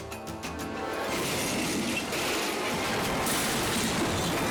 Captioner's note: car crashing